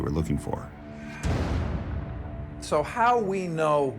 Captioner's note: bang